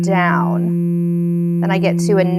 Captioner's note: electronic buzzing